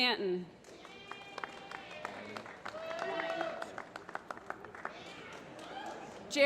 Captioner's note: applause